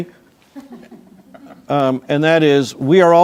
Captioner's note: crowd laughing